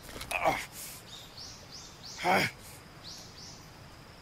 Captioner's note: character grunting